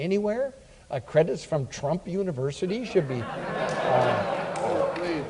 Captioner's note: audience laughs